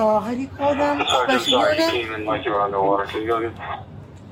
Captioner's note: radio chatter